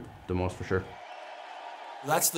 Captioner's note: fans cheering